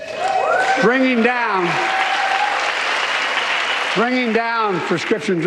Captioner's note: cheers and applause